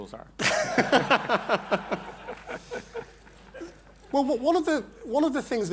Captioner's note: laughter